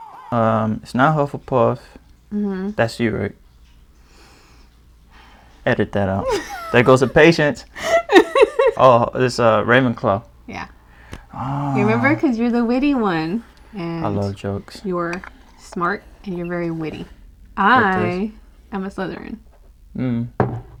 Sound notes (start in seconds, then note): 3.5 intakes breath; 6.0 laughs